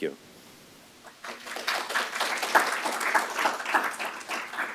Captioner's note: applause